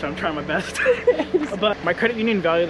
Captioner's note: chuckle